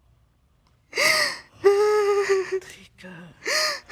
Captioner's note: crying; sobbing